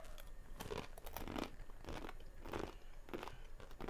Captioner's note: teeth gnashing